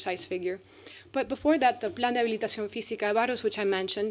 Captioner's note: speaking spanish